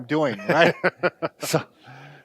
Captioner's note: laughs